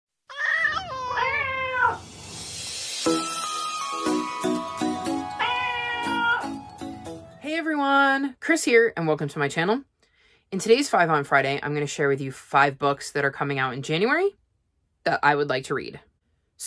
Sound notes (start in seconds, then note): 0.0 meowing Cats